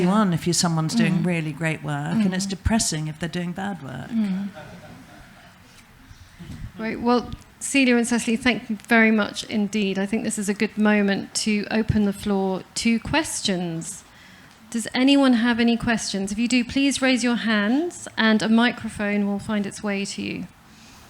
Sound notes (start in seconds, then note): 4.4 laughter